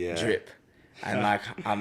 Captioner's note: laughs